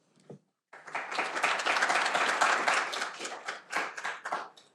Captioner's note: audience applauding